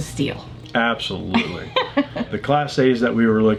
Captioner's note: laughing